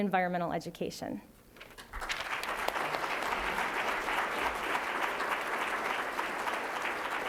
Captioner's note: applause